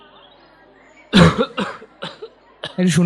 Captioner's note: cough